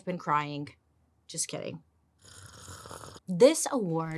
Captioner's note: slurps